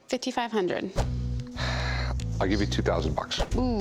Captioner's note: sighs